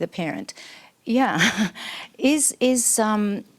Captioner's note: laughs